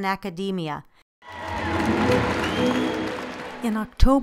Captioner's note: applause